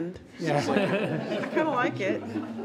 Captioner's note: all laughs